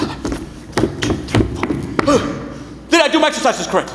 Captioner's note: boots thudding